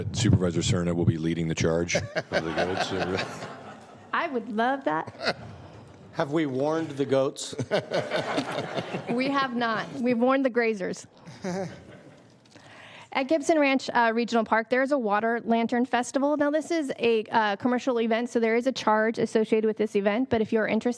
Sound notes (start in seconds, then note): 11.2 laughter